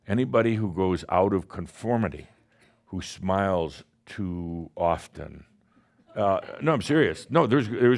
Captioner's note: someone scoffs